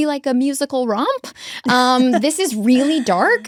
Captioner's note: laughs